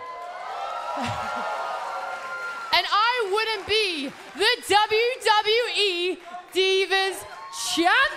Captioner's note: cheers and applause